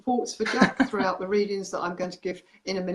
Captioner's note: laughs